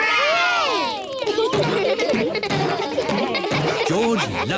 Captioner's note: kids laughing